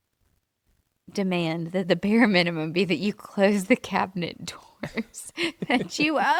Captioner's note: laughs